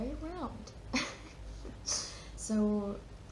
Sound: laughs

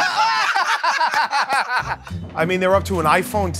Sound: laughter

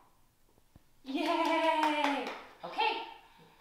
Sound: clapping

